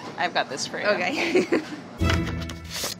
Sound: giggles; dramatic music

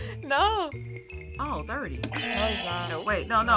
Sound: buzzer; buzzer rings

